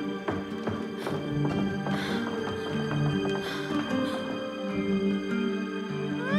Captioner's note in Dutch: Catherine kreunt; spannende muziek gaat door